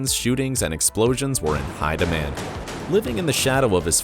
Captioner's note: gun firing